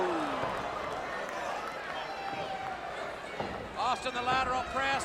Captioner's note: crowd chatter